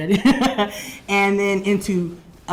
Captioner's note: laughs